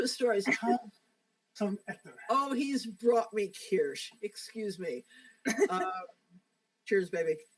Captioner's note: laughs